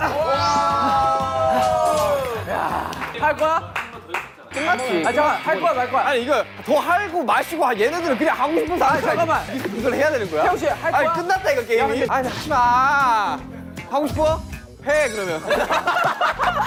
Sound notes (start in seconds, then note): 10.8 hesitant